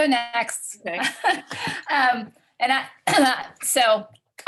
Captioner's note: laughs